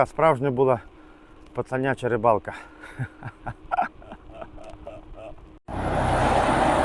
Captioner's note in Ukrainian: сміх